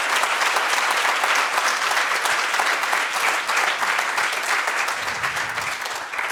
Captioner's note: audience applauds